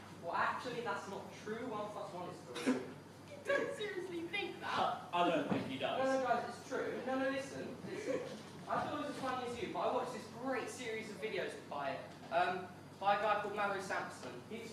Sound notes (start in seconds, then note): 2.5 Ed and Phil start laughing